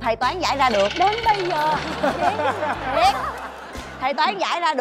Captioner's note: laughing